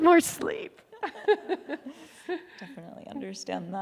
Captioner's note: laughing